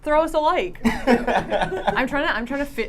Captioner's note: laughing